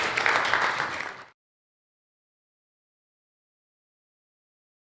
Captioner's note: audience applauds